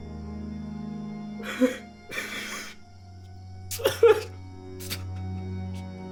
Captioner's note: somber music; Alan crying